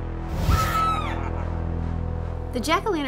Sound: scream

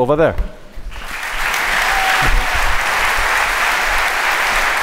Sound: applause

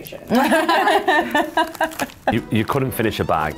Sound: laughing

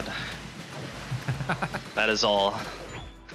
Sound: laughs

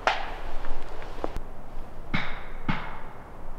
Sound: wood tapping

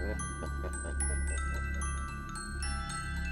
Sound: evil laugh in the distance

